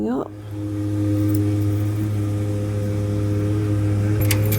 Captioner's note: very loud truck noise